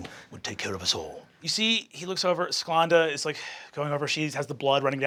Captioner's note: sighing